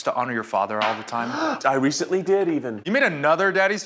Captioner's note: gasps